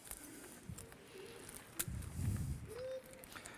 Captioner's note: dog whimpers